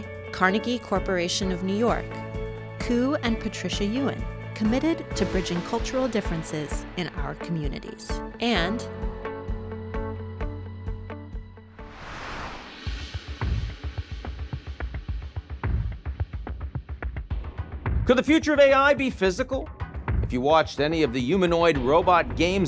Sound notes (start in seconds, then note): 11.7 air whooshing; 13.0 dramatic music